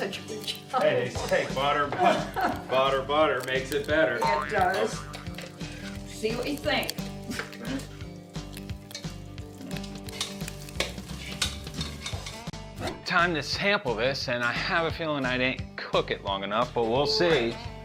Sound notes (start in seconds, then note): 1.7 cook laughs; 6.8 upbeat music; 9.7 metal clunking